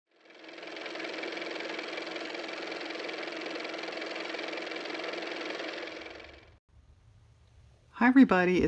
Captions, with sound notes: (car motor) hi everybody